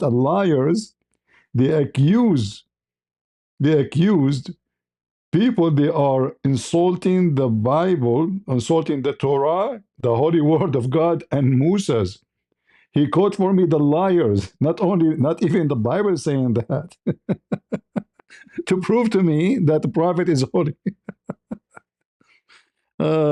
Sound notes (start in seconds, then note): 16.9 ketawa